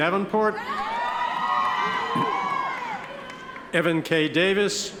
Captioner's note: audience cheers